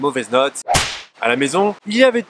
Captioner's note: whip